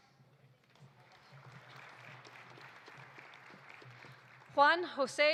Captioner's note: audience applauding